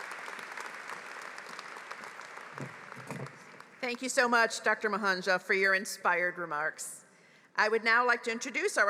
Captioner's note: applause